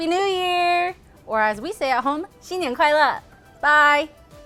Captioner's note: speaks foreign language